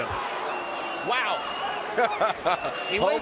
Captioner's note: laughs